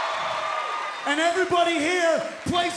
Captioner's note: cheers and applause